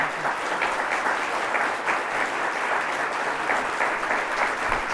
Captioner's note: everyone clapping